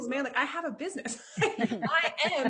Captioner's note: chuckles